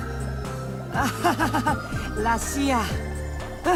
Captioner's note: awkward but understanding laugh